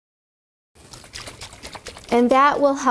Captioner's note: liquid shaking in jar